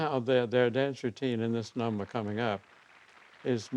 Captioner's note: applause